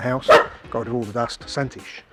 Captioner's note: barking